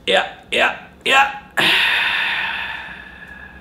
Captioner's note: exhales